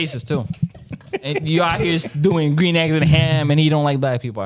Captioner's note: laughing